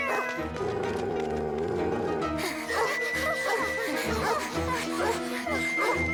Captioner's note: growls